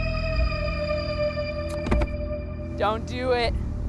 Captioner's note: gear shifts